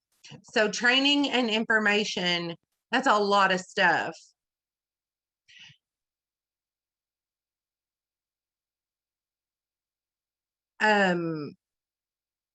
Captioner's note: silence